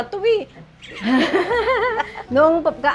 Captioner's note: laughs